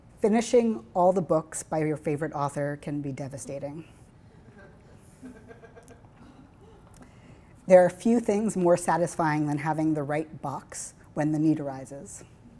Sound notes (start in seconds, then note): 4.4 laughing